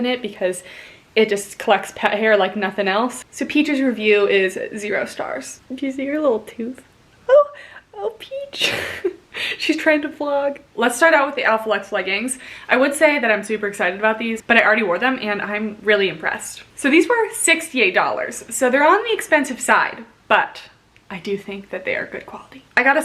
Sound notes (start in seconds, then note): 8.6 chuckling